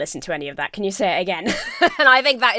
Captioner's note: laughs